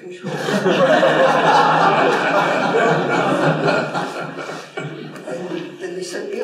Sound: laughter

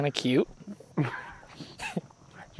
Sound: chuckles

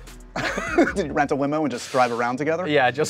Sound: laughs

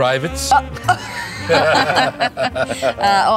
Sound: both laugh awkwardly

